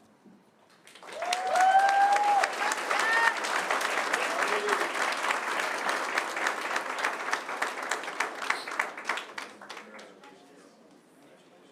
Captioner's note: applause